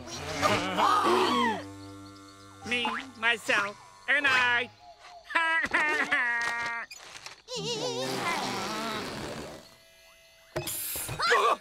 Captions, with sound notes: [gasping] Me, myself, and I. [laughing] [disappointed moans] - Psst! - Ahh!